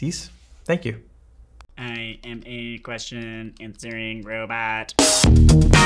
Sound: robot voice

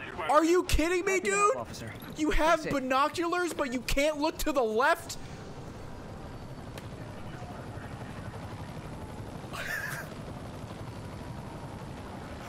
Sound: laughs

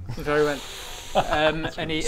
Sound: winces

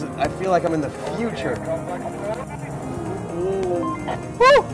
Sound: man Through Radio; radio beeping

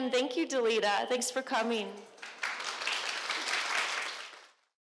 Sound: crowd applauding

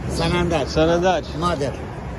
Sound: Farsi

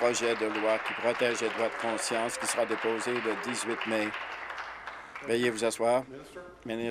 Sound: applause

